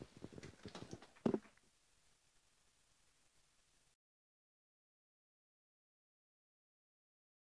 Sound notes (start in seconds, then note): 0.0 microphone popping